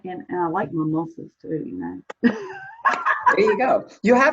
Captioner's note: laughs